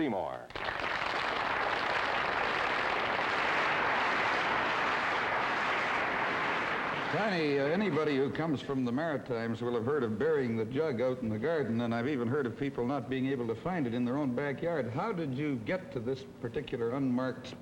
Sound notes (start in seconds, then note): 5.7 audience applause